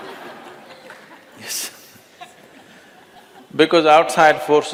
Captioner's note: laughter